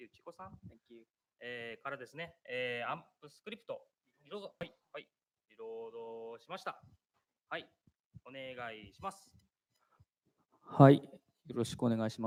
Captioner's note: speaking japanese